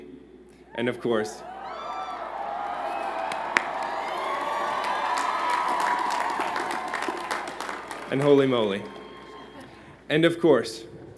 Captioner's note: cheers and Applause